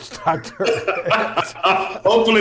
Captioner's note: laughter